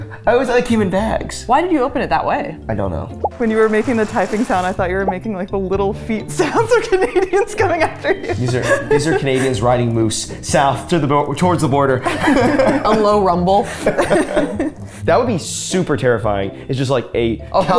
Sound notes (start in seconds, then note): 6.4 laughing